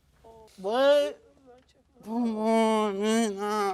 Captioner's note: stammering